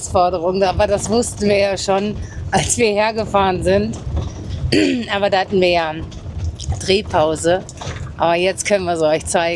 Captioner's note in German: räuspern